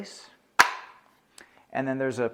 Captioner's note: tool clicks